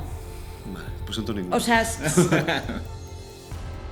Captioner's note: laugh